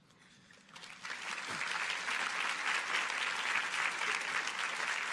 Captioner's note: audience applauding